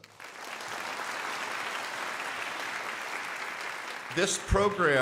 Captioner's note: crowd applauding